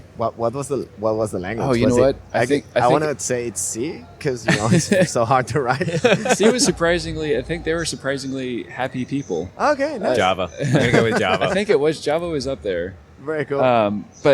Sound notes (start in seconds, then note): 6.1 laughter